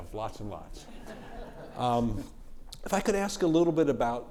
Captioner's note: audience chuckling